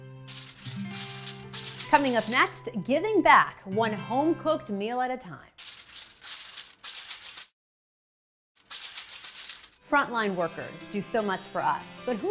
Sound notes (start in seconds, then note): 0.2 paper crumpling; 5.6 paper crumpling